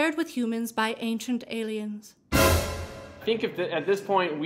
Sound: dramatic crash

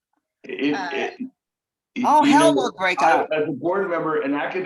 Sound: laughing

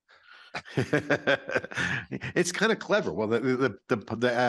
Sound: chuckling

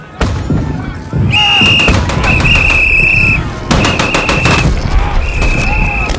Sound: whistling

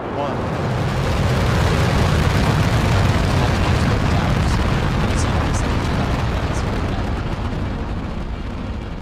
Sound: rocket launch sound

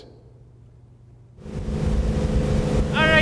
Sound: engine noise

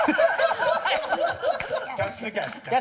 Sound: laughter

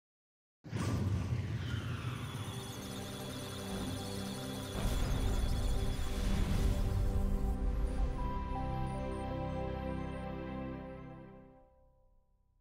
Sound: electronic Sounds of Data; musical Tones

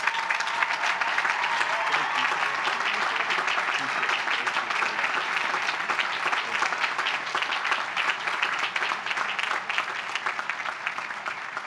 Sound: applause

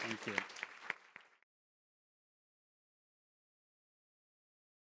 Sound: audience applauding

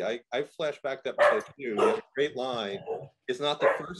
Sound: dog barking

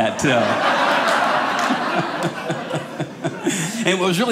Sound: audience laughing

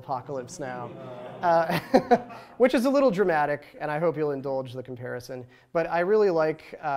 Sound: laughs

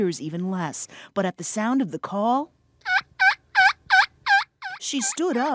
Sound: turkey calls

